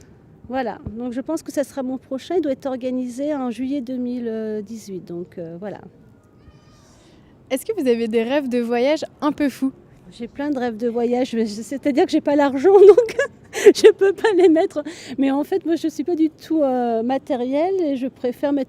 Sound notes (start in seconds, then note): 12.7 laughter